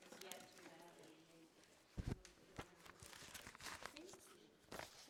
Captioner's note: people murmuring softly